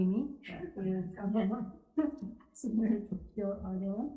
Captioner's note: laughing